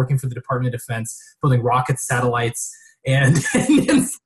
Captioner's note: laughing